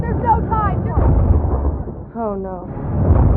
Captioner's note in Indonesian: boom jauh